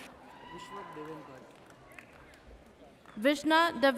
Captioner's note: audience cheers